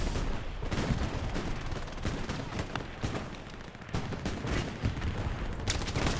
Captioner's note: gunfire